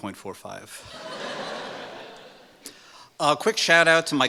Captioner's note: laughing